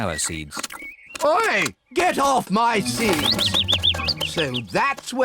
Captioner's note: bird tweets